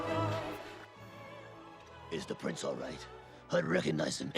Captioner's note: gruffly